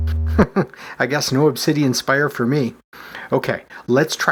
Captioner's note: chuckles